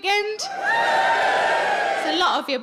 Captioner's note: audience cheers